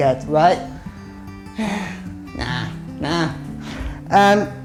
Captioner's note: sighs